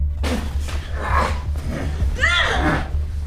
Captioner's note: man groaning